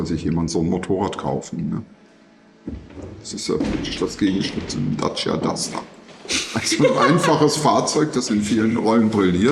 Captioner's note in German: gelächter